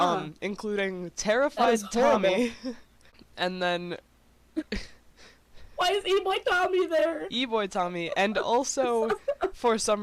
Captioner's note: laughs